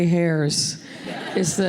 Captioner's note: laughter